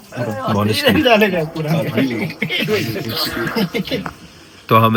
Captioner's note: conversation chatter